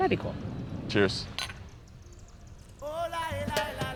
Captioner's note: glasses clink; lively music